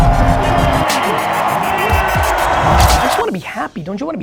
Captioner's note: audience cheers